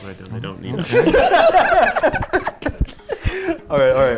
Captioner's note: laughing